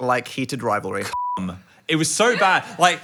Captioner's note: beeps